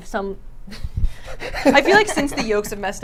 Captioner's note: laughs